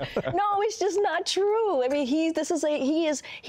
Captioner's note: laughter